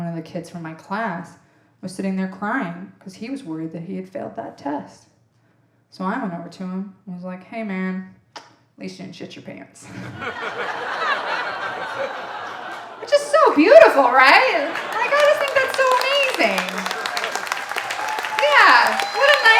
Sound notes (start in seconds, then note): 10.3 audience laughing